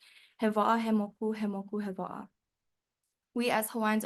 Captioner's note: speaks Hawaiian